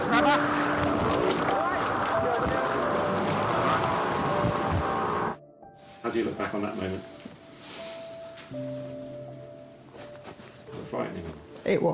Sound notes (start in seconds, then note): 3.7 engine grinding